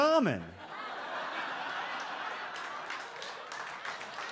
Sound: audience laughs

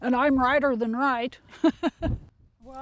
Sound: laughter

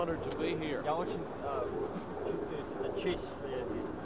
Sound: russian speech

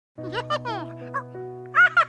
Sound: laughs

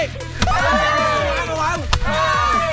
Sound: cheering

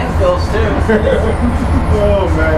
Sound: laughs

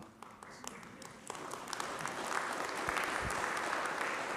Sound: applause

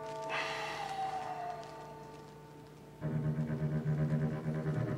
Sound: door bell rings

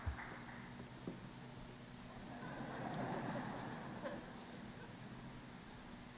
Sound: laughter

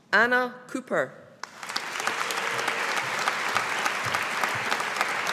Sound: audience applauding

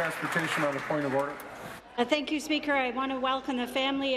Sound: applause

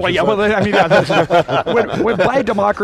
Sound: laughing

